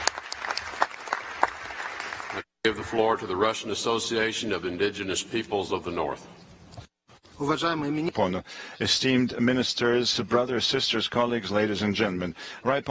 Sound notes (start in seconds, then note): 0.0 applause; 7.6 speaks in a foreign language